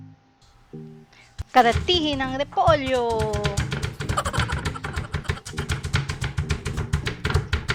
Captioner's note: laughing